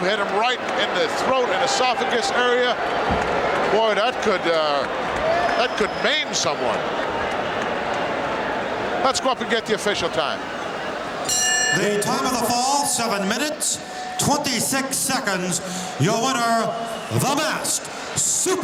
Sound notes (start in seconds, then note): 11.2 bell rings